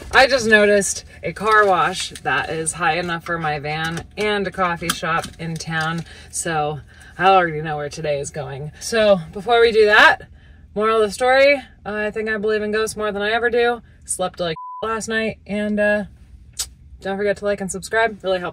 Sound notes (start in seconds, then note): 14.5 beep